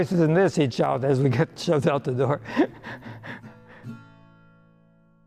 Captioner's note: laughs